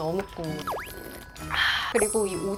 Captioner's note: slurp